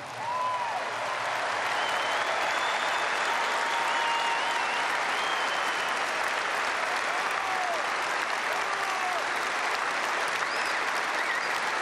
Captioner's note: applause